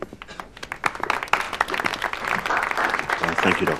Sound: applause

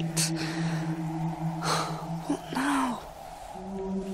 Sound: sighs

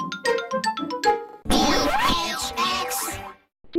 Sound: record scratches as chorus sings

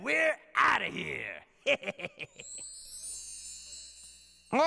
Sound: laughing

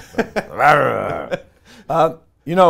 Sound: laughs; growls

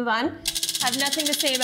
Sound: wheel clicking

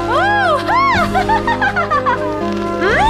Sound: laugh excittedly

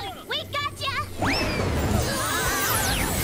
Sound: screaming

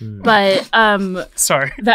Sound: laughs

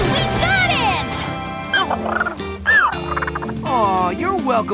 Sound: squeaking

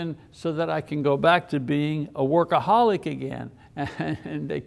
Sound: chuckles

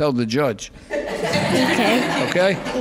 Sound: laughing

